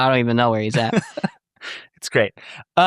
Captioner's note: laughing